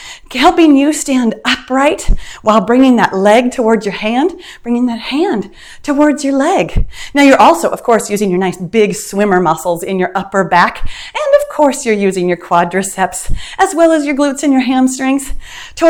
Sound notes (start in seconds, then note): none